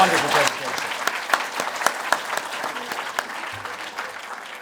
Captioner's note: applause